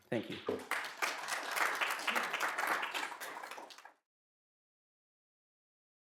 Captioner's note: applause